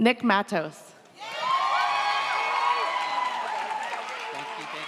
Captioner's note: audience cheers